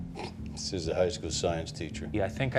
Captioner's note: scoffs